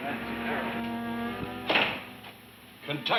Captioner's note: door clicks